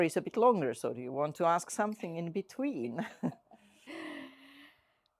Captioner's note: chuckles